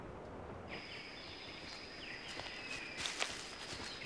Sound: birds chirping

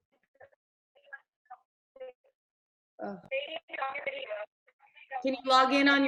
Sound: video interference drowns out sound

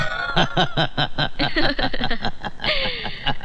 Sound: laughing

